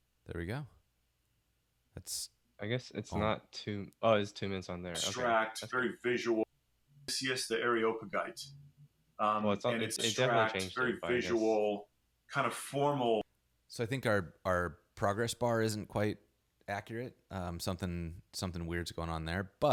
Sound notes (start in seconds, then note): 5.5 podcast plays